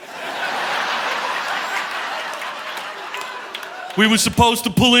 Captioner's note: audience laughing